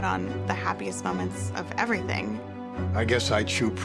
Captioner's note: none